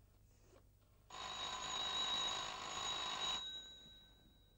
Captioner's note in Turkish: telefon sesi